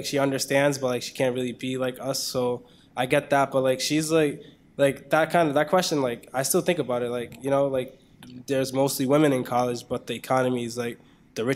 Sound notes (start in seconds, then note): none